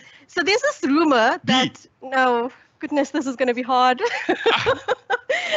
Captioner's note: laughs